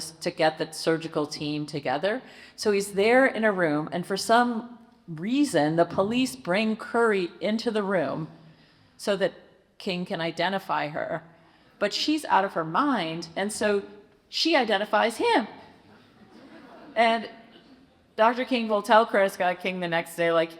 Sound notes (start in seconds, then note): 15.8 audience chuckles